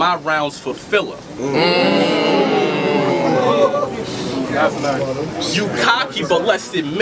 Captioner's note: crowd Reaction